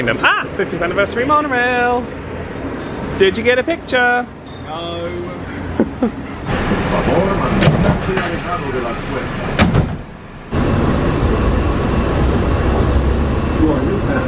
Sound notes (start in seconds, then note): 5.6 chuckles; 6.5 doors slam shut